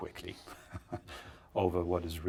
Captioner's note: laughs